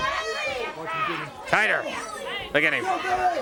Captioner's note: crowd chatter